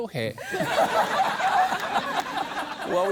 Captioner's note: laughter